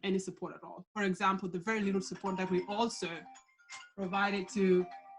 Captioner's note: phone rings